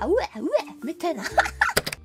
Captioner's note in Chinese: 龍笑